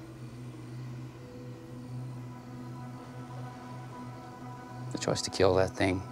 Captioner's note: tense music; crickets chirping